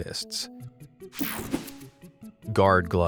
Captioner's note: slide whooshes